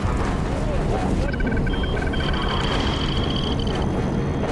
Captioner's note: trilling, beeping